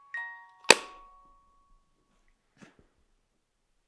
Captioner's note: lid thuds